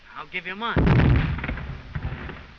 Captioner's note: explosion